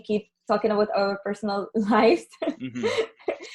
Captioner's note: laughs